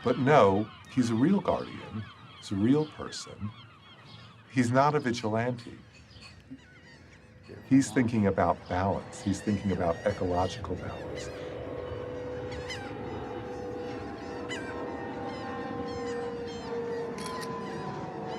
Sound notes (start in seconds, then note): 11.7 airplane engine roaring; 17.0 camera clicking